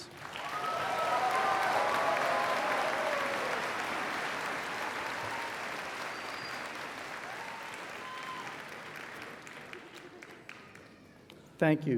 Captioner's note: applause